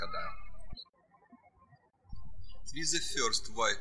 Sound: bird chirping

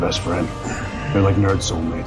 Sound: sighs

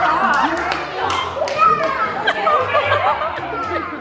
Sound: clapping

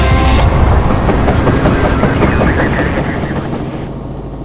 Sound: chopper rotor spins

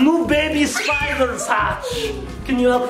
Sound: screams

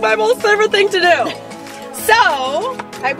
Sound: laughs

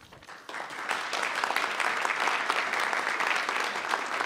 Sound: audience applauding

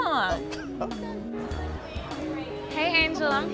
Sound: laughs

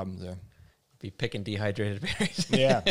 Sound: laughs

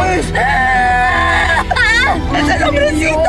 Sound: screams

